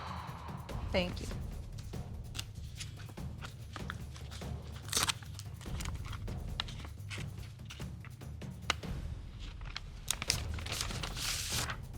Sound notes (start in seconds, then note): 3.3 opening envelope; 9.2 papers rustling